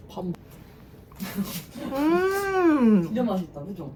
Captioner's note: munch munch